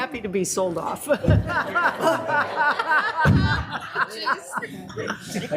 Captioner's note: people laughing